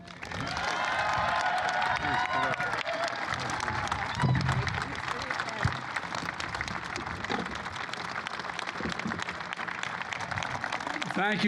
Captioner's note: applause